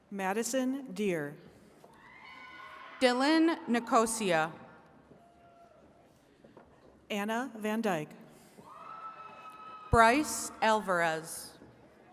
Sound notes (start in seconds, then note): 2.0 attendees cheering; 8.6 attendees cheering